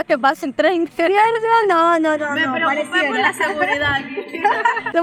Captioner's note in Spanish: Risas